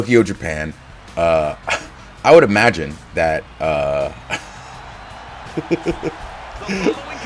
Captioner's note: laugh